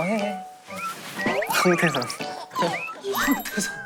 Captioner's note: hahahaha